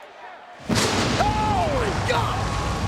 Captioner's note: lighting blasting